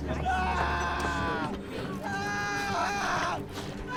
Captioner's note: man screaming